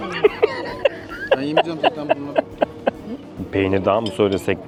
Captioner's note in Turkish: Kahkaha